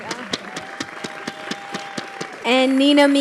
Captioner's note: audience clapping